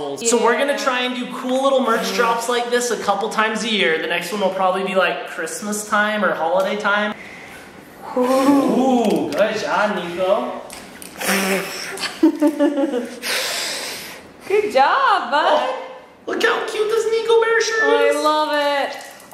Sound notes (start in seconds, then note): 11.1 blowing; 18.5 liquid spilling